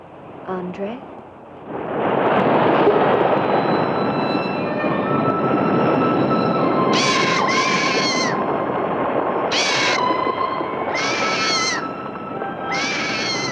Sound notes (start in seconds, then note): 1.8 waves crashing; 6.9 bird squawking; 9.7 mysterious music continues